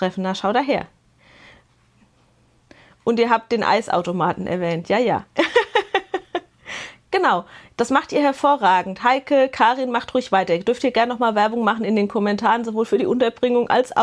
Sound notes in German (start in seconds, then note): 5.4 Gelächter